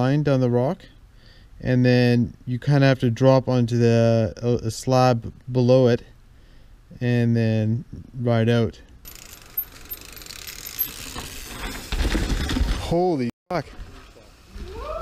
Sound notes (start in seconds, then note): 9.0 bicycle clicking